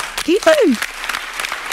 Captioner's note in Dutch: Applaus